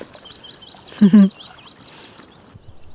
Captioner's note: chuckles